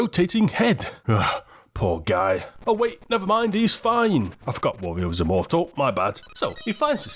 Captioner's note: sigh